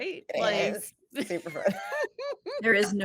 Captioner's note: actors laughing